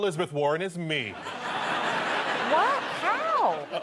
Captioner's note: audience laughter